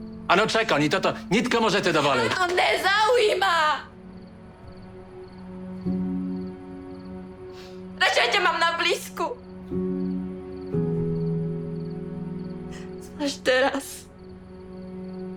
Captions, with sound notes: (Speaks Czech) How do you expect me to afford all of this?! (Speaks Czech) I don’t care! (Speaks Czech) I’d rather have you around! (Speaks Czech) It’s just us.